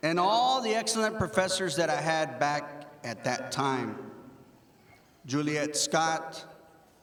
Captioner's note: none